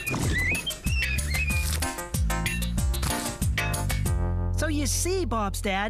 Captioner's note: squeaking; splosh!